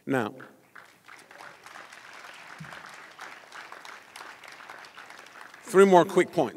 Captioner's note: applause